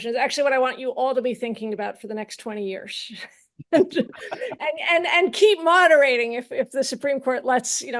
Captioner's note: laughs